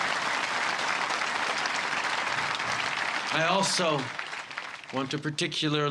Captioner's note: cheers and applause